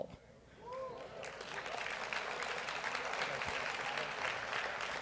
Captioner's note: audience applauds